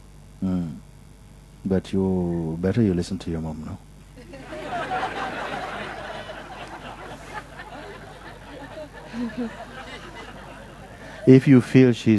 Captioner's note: laughter